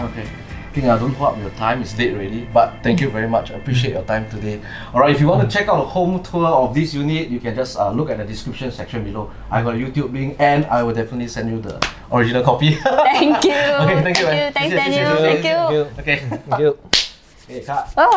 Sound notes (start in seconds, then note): 12.8 laughs